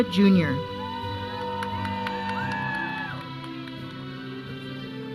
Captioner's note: audience cheering; processional music